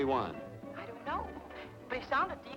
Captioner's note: on telephone